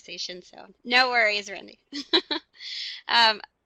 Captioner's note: laughs